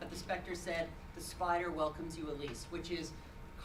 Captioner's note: none